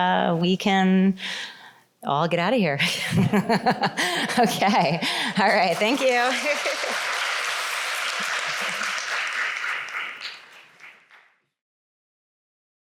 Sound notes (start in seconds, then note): 5.2 applause